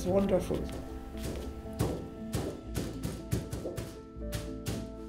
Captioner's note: canvas thuds